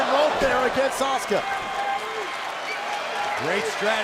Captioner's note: crowd cheering